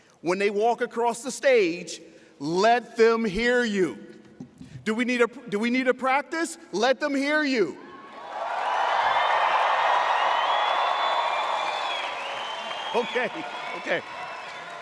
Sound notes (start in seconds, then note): 7.8 audience cheers